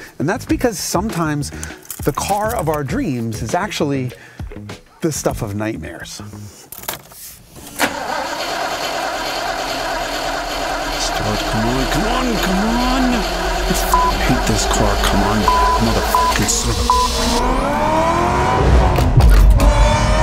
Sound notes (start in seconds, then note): 7.9 engine sputters; 15.3 beep; 17.5 engine roars